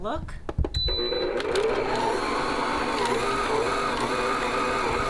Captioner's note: stand mixer whirring